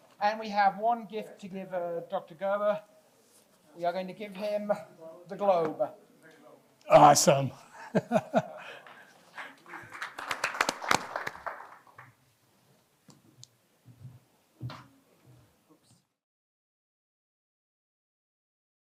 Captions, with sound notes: And we have one gift to give Dr. Gerber. We are going to give him the globe. Awesome. [LAUGHS] [APPLAUSE]